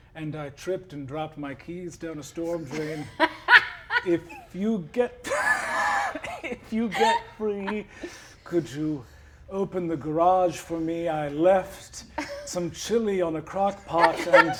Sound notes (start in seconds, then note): 2.4 laughs